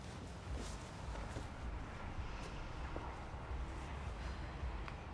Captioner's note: traffic whooshing; Mae sighs